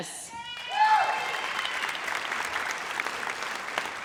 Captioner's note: audience cheers